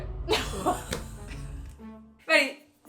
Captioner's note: laughs